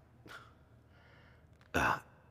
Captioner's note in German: Er seufzt